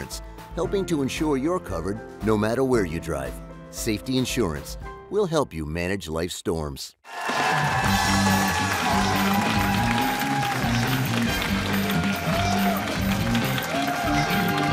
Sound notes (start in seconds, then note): 7.0 cheers and applause